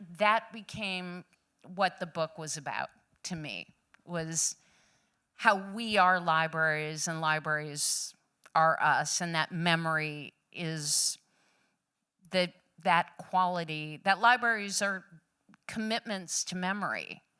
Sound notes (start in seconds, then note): none